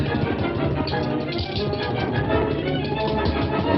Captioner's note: dramatic music continues; tacks thudding; tacks clanking; dramatic music continues